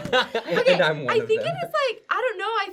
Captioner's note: laughing